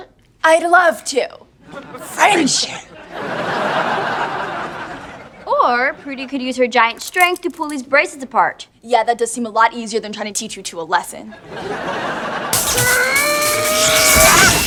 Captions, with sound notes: I'd love to! Friendship! [laughing] Or, Prudy could use her giant strength to pull these bracelets apart. Yeah, that does seem a lot easier than trying to teach you two a lesson. [laughing] [screaming]